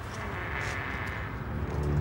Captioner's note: door creaking; soft tense orchestral music